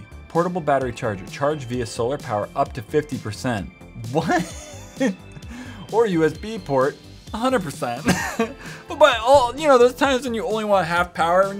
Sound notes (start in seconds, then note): 8.0 laughs